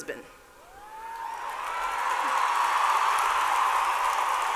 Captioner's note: cheers and applause